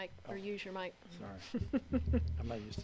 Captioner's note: laughs